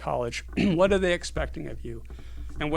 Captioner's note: cough